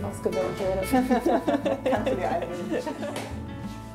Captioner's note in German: lacht